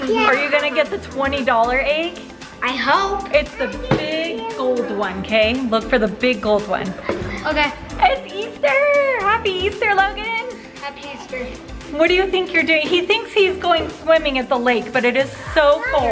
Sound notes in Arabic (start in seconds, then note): 7.4 همسات